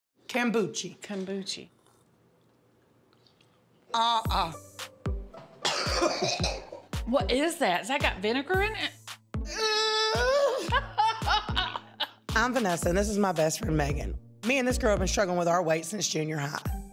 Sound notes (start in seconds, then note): 5.6 coughing; 10.5 laughs